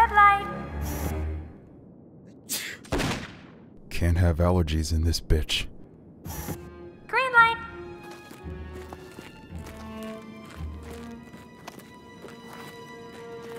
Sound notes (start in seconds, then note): 2.5 sneezes; 2.8 gunshot